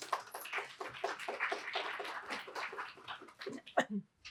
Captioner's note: applause